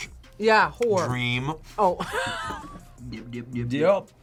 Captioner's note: laughs